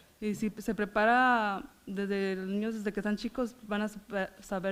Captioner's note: foreign language